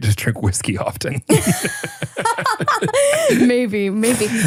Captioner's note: both laughing